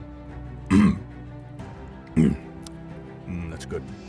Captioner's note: coughs